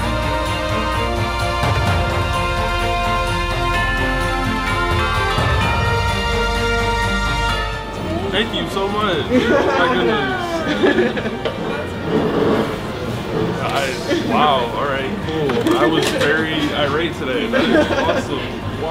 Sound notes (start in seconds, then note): 11.1 laughter